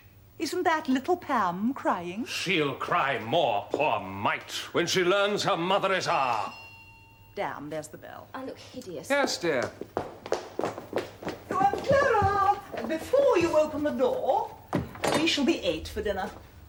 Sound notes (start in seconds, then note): 6.2 the front door hell rings